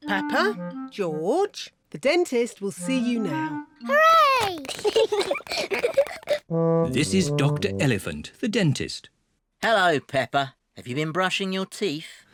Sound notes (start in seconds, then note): 4.6 both giggle